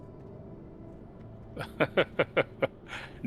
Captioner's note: laughs